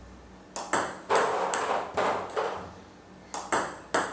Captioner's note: ball ping pong hitting